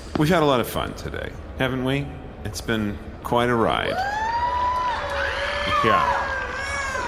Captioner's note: whoops, cheers, screams from the audience